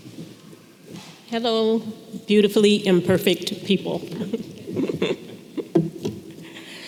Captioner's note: chuckles